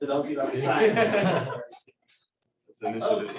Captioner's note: laughter